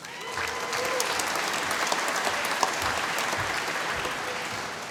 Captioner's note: applause